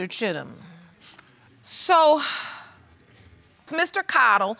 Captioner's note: sighs